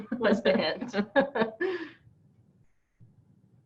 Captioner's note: laughs